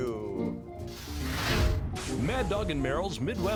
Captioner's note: screen whooshes